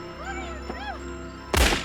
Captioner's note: gunshot